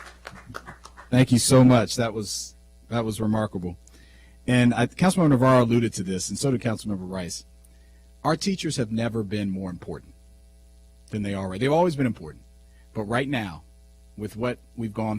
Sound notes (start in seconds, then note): 2.0 applause